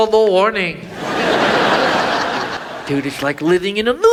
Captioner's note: audience laughs